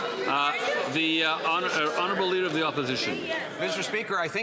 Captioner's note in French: voix de l'interprète